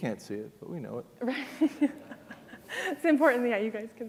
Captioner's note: laughs